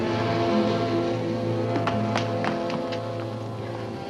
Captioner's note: Eva's footsteps; dramatic music